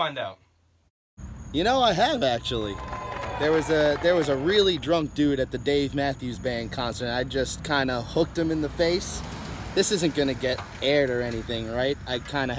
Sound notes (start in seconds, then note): 2.2 audience cheers